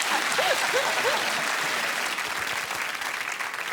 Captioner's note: applause and laughter